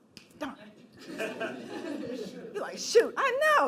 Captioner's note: laughing